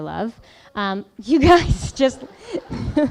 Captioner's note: laughing